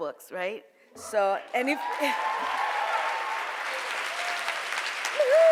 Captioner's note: audience cheers